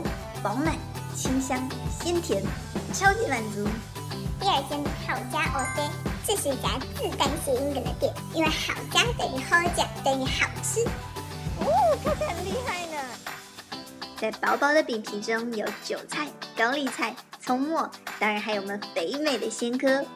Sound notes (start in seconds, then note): 9.8 Taiwanese